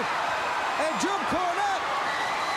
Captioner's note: crowd cheering